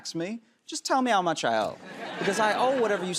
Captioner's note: laughter